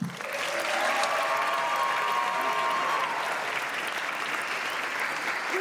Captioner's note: applause